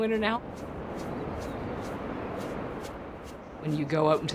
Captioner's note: air whooshing